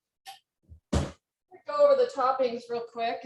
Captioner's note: oven door slams